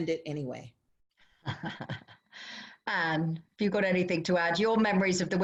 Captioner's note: laughter